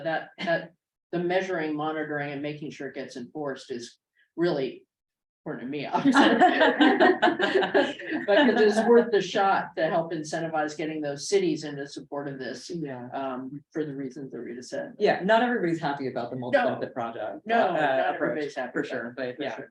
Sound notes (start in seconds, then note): 6.0 laughter